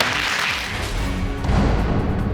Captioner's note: audience applauds